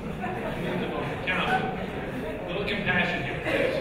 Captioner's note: audience chuckling